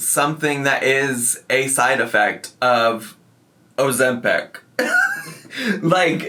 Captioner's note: laughs